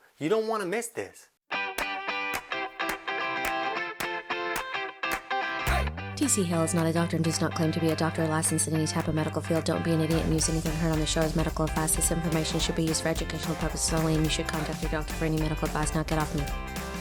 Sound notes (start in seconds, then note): 1.7 bright music; 6.2 voiceover